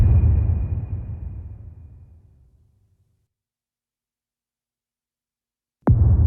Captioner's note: dramatic sound